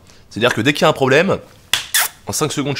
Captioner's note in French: se claque les mains